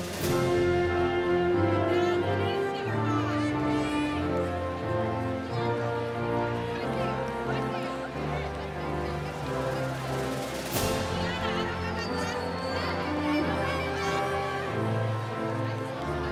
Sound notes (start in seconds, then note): 4.8 cheering continues; 4.8 inspirational music